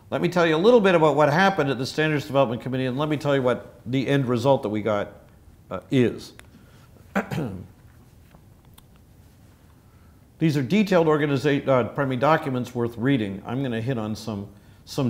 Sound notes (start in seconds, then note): 7.1 cough